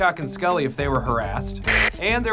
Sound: walkie talkie static

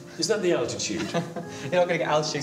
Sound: chuckles

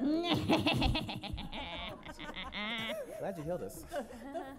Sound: laughs evilly

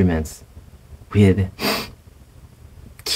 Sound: sniff

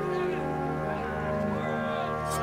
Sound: yelling

